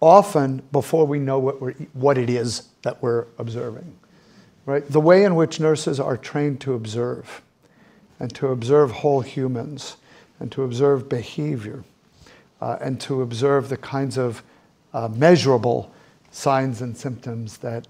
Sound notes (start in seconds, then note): none